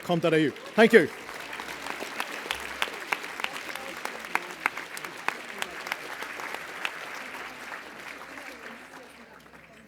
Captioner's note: applause